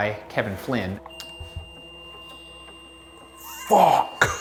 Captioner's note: suspenseful music; REM-Pod beeping